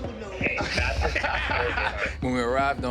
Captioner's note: laughter